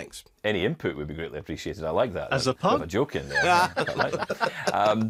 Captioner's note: laughs laudly